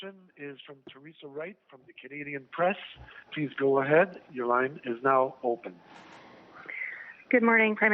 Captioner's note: speaking French